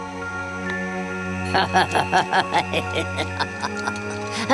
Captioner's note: evil laugh